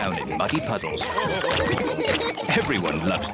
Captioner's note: all laugh